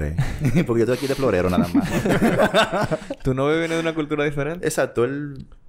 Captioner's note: laughs